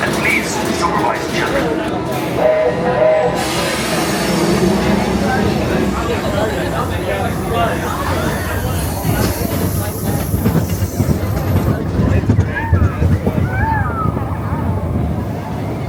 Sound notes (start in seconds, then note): 2.3 train horn tooting; 2.7 train hissing; 6.6 guests chattering indistinctly